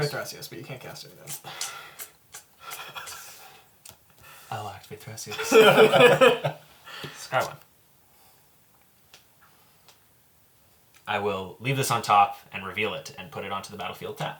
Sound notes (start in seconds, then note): 5.4 all laugh